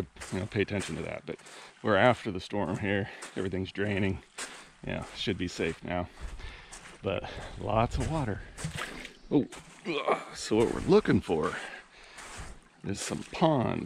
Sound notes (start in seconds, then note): 9.8 groaning; 11.0 footsteps sloshing